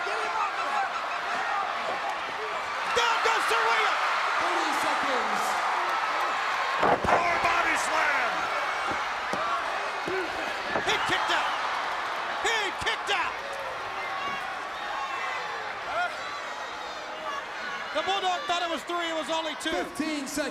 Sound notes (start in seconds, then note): 0.1 crowd chatter; 3.9 crowd cheering; 13.5 crowd chatter